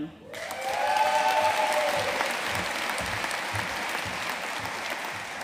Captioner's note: audience cheering and applauding